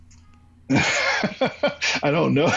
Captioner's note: laughs